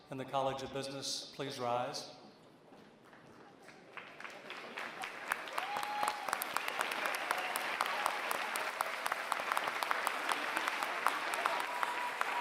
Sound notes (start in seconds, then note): 3.1 applause